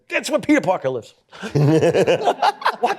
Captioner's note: laughter